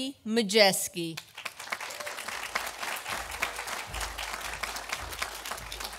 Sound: audience applauding

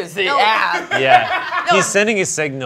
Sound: crewmember laughs

